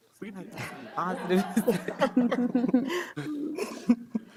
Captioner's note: audience laughing